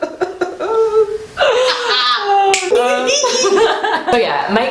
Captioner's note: laugher